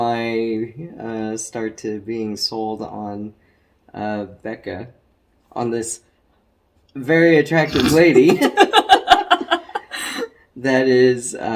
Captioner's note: they both laugh